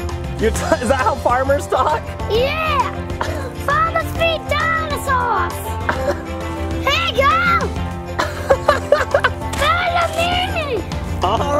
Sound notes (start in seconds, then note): 8.1 laughs